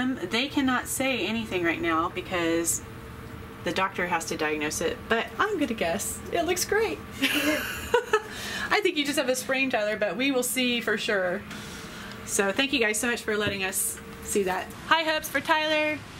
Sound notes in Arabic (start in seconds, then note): 7.2 يضحك